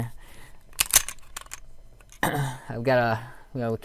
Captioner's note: gun clicks